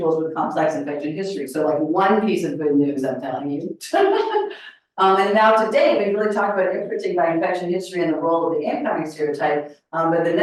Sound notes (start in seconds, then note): 4.5 laughs